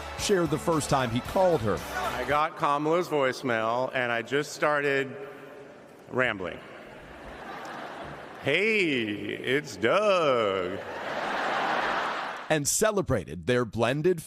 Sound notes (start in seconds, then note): 0.0 cheers and applause; 4.0 crowd chanting, "do something"